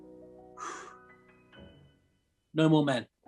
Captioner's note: exhales